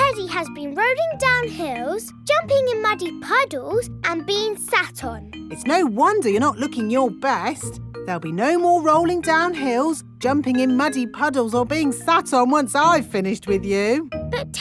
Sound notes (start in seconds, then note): none